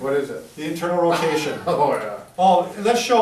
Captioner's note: laughs